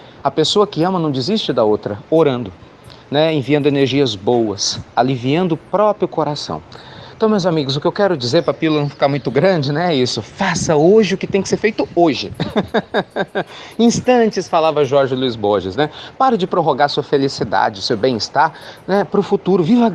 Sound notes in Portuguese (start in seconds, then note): 12.3 Risos